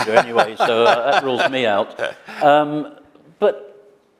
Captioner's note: laughs